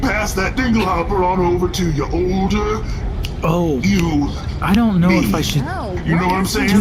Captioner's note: snapping